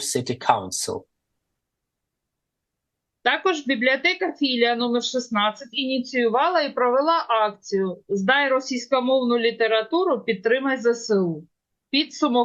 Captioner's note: foreign language